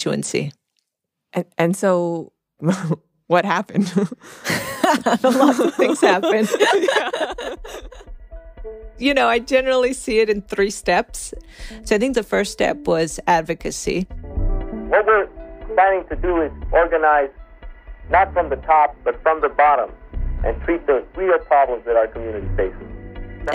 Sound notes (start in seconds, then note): 3.8 laughs; 7.4 both laugh